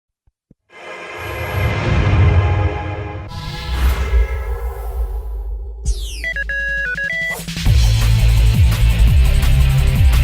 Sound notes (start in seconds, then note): 5.8 beeping